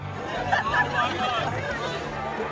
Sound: laughing

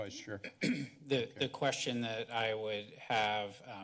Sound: clears throat

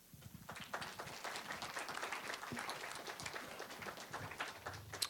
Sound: applause

